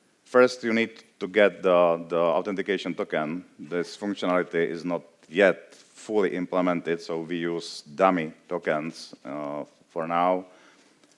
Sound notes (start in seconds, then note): none